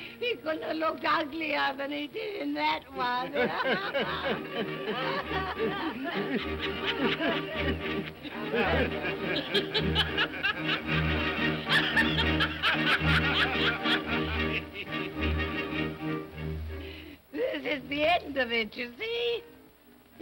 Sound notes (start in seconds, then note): 3.1 all laughing; 14.8 ominous music